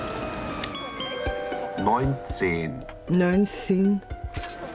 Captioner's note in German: Computerstimme